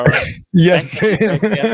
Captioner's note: laughing